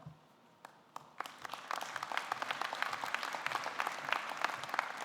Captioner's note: audience clapping